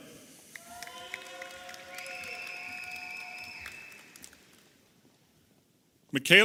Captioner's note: audience applauding and cheering